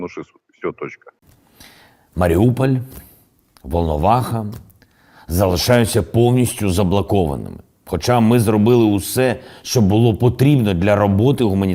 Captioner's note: in Ukrainian